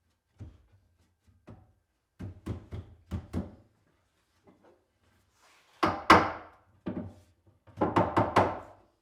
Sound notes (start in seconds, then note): 5.6 mallet thudding